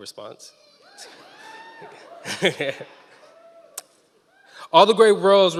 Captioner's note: members of the audience cheering